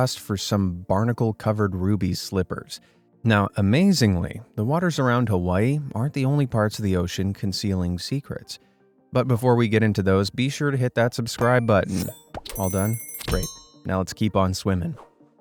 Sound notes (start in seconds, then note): 11.4 bell dinging